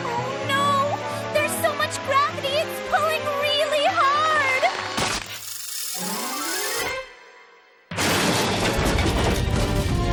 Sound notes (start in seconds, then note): 4.3 clicking; 7.9 crash